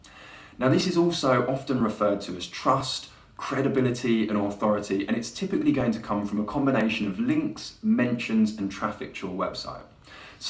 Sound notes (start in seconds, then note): none